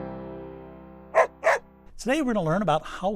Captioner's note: dog barking